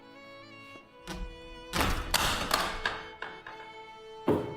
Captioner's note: banging